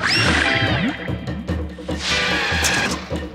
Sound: tires squeal

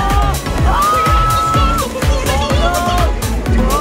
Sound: people shouting

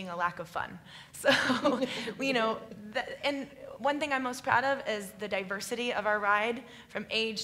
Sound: laughs

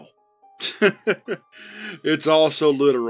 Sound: Dr. Taggart laughs

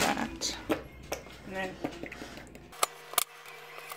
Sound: making cutting sound effects

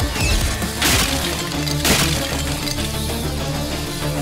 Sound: crashing sound

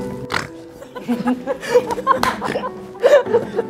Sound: laughing out pig's laugh

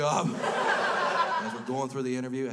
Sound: crowd laughs

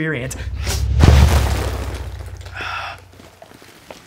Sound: popcorn spills; man sighs

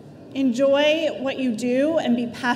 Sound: none

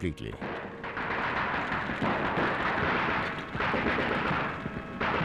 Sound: guns firing

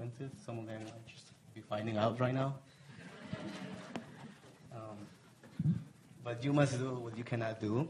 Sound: laugh

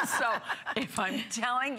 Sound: laughter

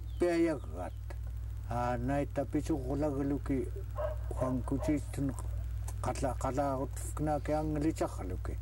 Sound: in our language

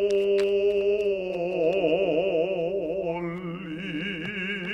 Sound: playing cards shuffling and rustling

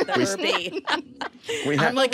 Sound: all laughing

